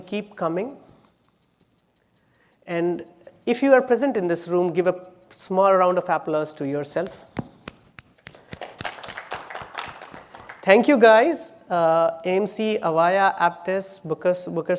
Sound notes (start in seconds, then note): 8.2 applause